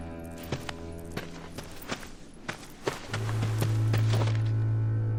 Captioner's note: footsteps shuffling